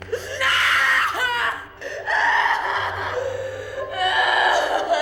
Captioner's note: Elizabeth screaming